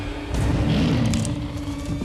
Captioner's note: lion growls